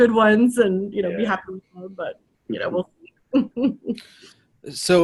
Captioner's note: laughs